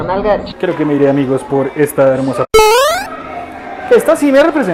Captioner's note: beep